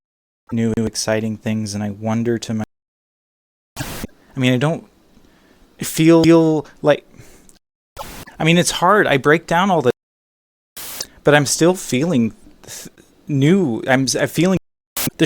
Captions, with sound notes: ne-ew exciting things, and i wonder to m- [static] i mean, i don't fee-eel li- (breathes in anxiously) [static] i mean, it's hard i break down all th- [static] (stammering) but im still feeling... th- new i.. im s- im feeling [static]